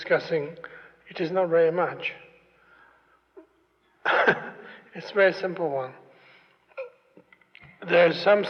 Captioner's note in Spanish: se ríe